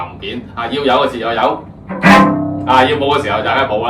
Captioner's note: a forceful sound